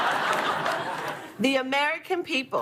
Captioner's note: laughter